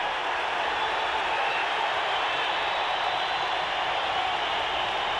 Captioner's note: audience cheering